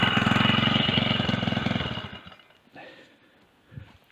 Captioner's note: engine stops